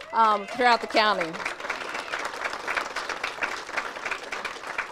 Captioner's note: audience cheers and applauds